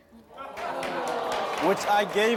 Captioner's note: audience groans